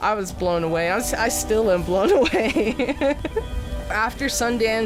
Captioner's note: laughs